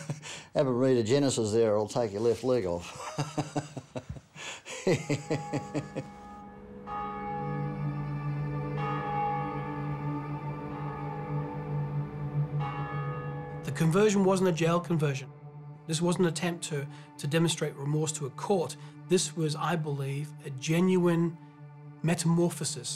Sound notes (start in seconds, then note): 0.0 laughs; 2.8 laughs; 5.3 bell rings